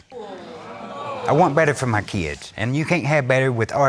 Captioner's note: crowd gasping